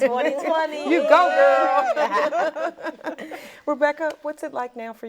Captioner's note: laughing